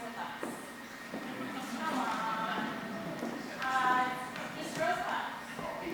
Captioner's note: audience laughing